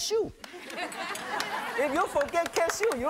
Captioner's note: audience laughs